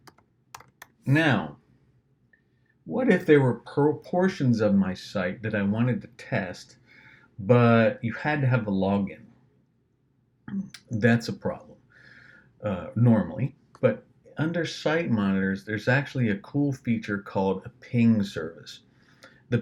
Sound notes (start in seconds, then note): 10.5 swallows